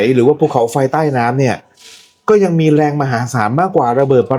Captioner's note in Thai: เสียงสูดหายใจ